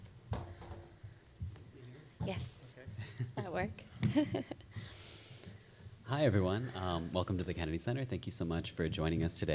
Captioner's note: chuckles